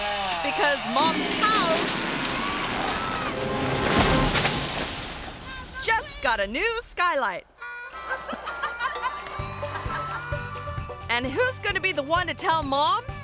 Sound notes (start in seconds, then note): 2.8 tense music; 8.0 cameraperson laughing